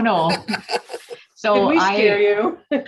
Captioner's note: laughing